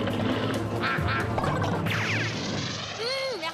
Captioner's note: quacking